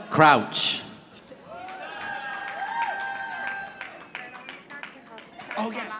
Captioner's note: audience applauding